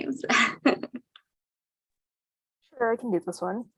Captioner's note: chuckling